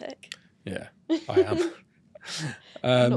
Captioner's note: both laugh